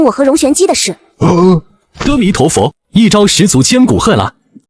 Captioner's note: sigh